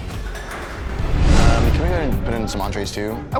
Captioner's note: air whooshing